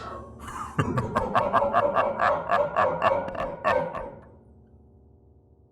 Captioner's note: hysteric laughter